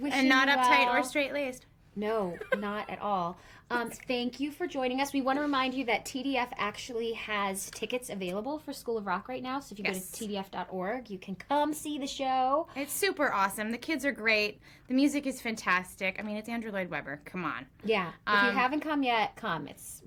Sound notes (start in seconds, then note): 2.1 laughs